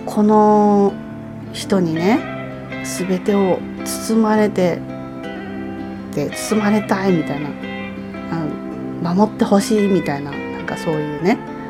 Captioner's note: laughs